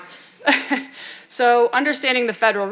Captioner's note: chuckling